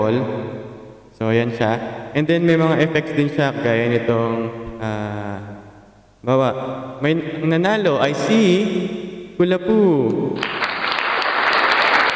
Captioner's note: people clap